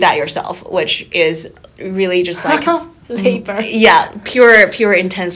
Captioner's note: laughing